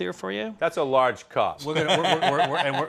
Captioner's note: laughing